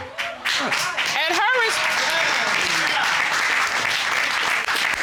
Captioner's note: audience cheering, applauding